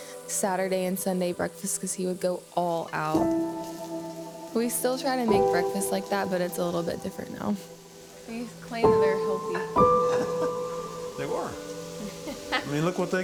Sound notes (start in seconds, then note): 9.5 laughs; 12.0 laughs